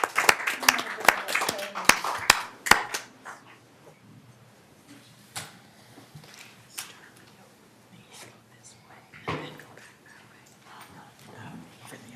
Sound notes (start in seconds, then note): 0.0 applause